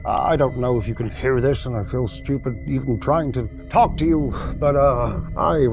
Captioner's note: sighing